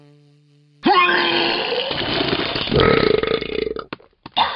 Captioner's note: severe vomiting